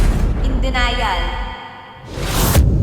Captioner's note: crash